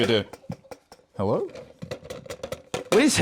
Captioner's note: tapping